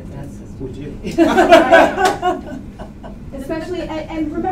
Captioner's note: laughter